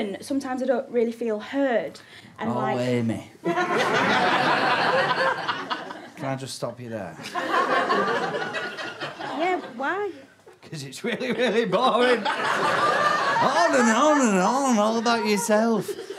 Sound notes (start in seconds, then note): 3.5 audience laughter; 7.2 laughter continues